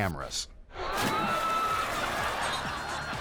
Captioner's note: everyone gasping; photographer splashing; audience laughing; guests laughing